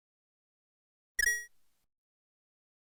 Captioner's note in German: rupee sound